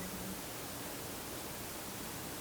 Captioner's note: none